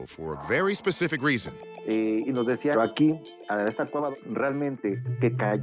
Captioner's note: speaking Spanish